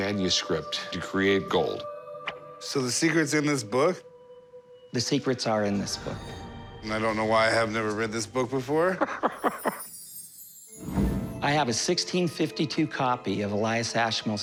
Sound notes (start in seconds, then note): 8.8 laughs